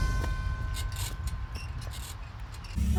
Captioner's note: key screeching